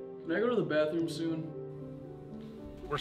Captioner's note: none